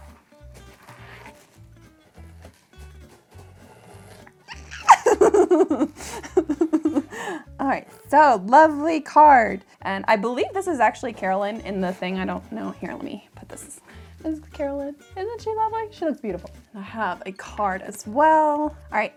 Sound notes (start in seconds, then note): 4.4 laughs